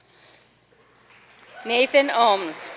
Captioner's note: audience cheering and applauding